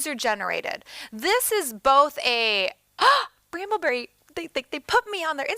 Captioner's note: gasps